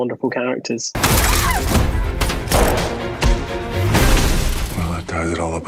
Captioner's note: glass shatters; Rita screams